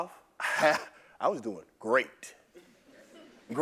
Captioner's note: laugh